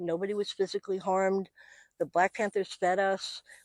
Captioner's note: none